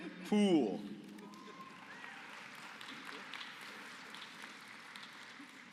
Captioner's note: applause